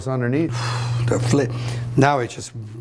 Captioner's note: exhales sharply